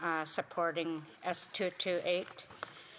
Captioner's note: speaking indigenous language